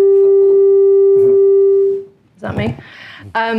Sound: microphone buzzing

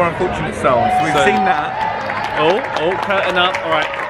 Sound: guests cheering

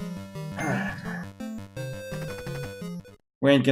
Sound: sighing

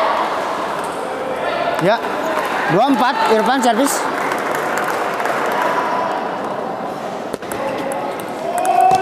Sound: applause

